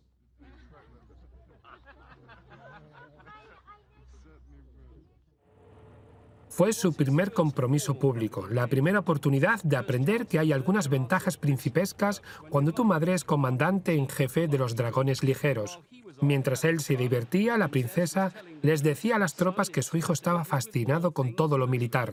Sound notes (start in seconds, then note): 0.4 laughing; 3.1 speaking softly; 5.5 voiceover